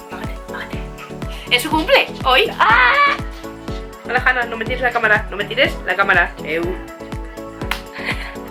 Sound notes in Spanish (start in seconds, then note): 2.6 Grito